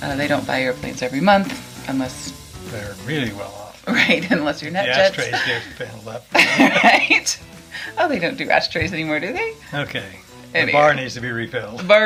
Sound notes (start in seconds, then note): 5.0 laughs; 6.3 both laugh